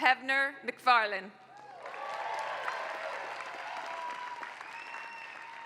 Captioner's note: applause